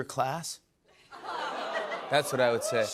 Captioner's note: audience awws and cheers